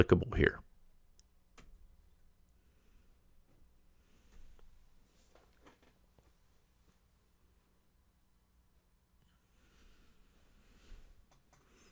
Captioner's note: pause